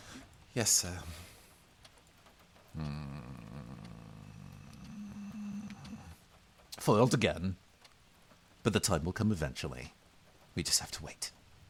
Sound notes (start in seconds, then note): 2.7 disgruntled noises